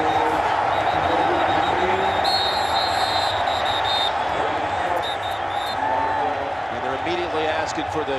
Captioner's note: whistles blowing